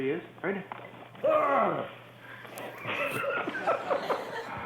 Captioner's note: laughter